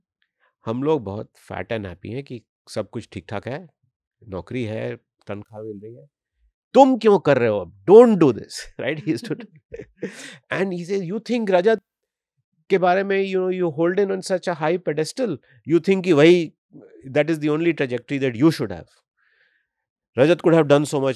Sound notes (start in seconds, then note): 8.9 chuckles